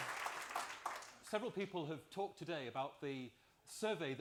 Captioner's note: applause